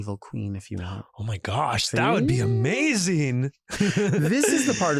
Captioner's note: chuckles